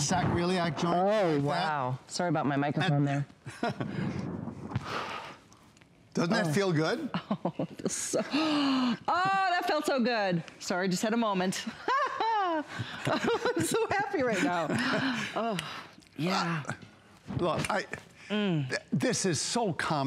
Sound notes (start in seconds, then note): 11.6 laughter